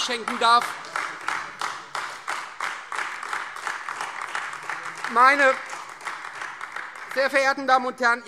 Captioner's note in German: Beifall Freie Demokraten, vereinzelt SPD und AfD